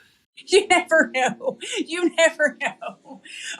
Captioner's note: laugh